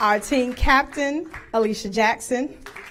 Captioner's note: applause